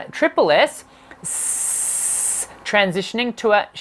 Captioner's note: hissing